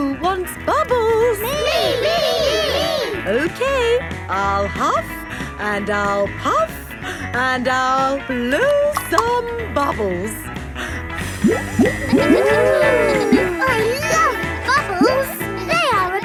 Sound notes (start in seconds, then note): 12.8 kids gasping and laughing